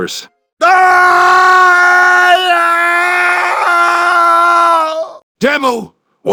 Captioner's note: Demoman screams